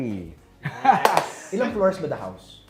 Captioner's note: both laugh